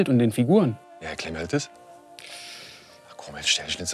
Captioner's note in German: Scharfes Einatmen